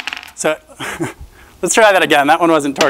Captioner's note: chuckling